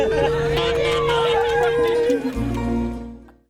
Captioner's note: truck horn and cheers